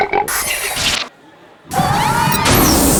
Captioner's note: burping